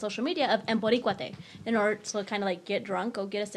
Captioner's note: speaks in foreign language